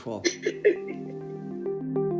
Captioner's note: chuckles; pleasant music